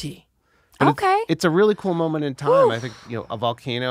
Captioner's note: she exhales